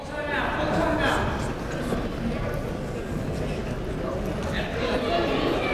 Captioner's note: coaches chattering faintly amidst echo